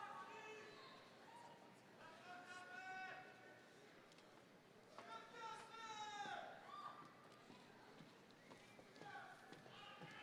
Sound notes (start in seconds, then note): none